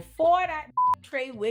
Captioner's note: beep